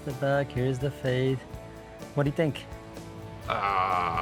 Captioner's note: customer sighing; gentle music